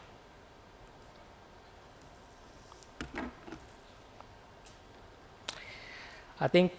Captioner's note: silence